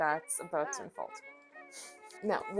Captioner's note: laughs